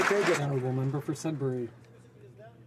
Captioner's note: some Applause